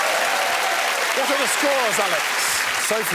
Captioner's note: applause